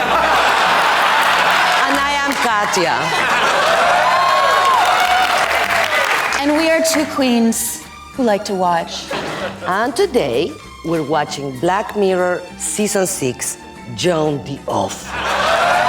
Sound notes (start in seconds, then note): 0.0 audience laughs; 3.2 audience cheers